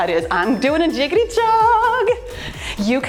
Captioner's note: timer beeps